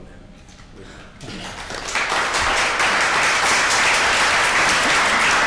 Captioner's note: audience clapping